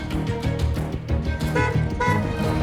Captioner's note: honking